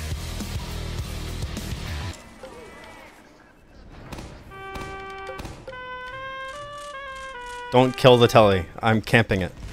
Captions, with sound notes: (gun fires) Don't kill the telly, I'm camping it.